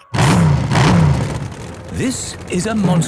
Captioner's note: engines revving